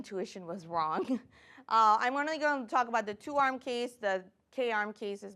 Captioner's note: chuckles